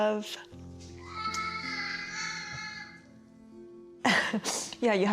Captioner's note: crying